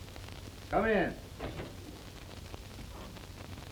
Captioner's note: knocking